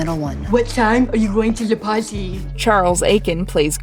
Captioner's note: imitating a Deaf person